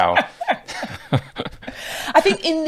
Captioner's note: laughing